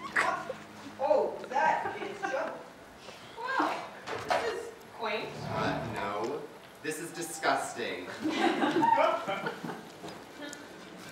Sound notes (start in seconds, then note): 8.3 audience laughter